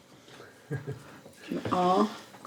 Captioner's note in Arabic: يضحك